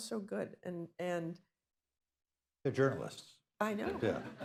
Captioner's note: laughter